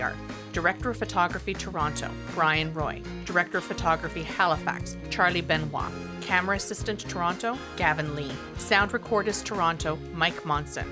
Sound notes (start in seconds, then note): none